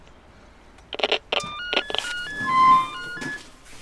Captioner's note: intercom opens the door